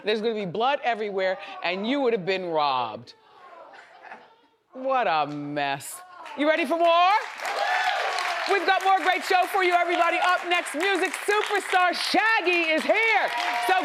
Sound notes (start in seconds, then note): 3.5 audience exclaims; 7.7 audience applauds